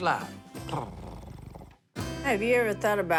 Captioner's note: purring